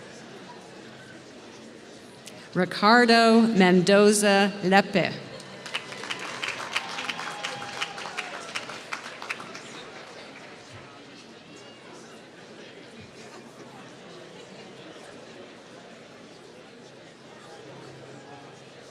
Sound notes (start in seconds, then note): 5.4 applause